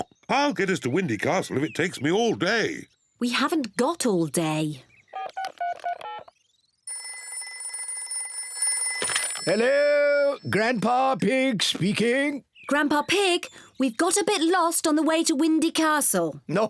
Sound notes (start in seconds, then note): 5.3 beeping; 6.8 phone rings